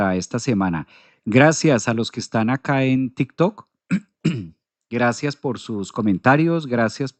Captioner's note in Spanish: carraspeo